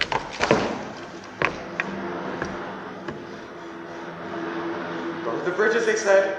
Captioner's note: WWII aircraft sounds